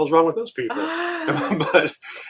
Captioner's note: gasping